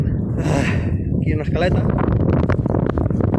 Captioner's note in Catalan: Esbufega